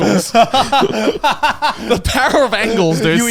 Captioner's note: laughs